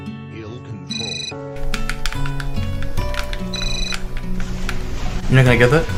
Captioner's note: cell phone rings